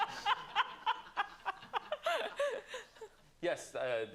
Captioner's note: laughter